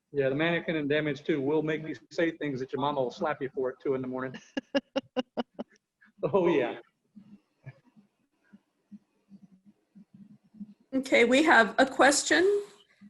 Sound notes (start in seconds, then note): 4.1 laughing